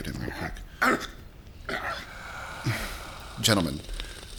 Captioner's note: close breathing sounds